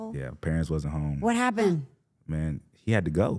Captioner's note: gasps